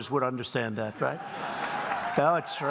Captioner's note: applause